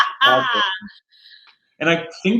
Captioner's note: laughing